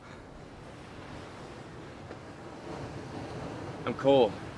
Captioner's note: waves continue crashing